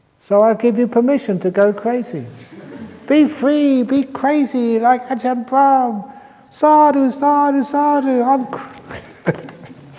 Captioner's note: laughs; chuckles